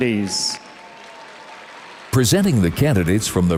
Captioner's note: audience cheers and applauds